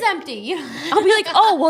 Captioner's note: laughing